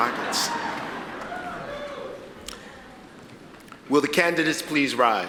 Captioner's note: audience laughs